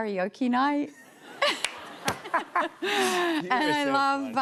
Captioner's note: laughter